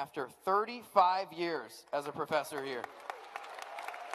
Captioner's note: applause